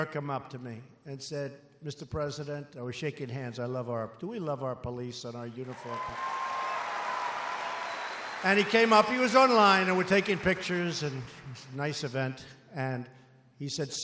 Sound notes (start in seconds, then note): 5.6 applause